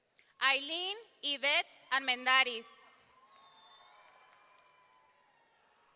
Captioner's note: audience cheering